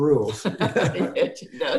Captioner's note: laughter